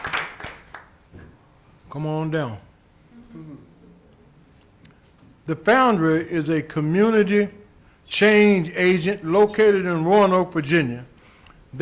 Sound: applause

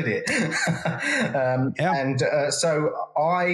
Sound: laugh

